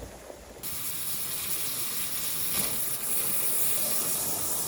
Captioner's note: waterjet buzzing